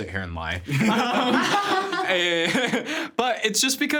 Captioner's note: everyone laughing